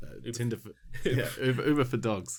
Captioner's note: laughs